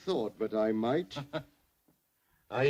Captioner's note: Harry laughs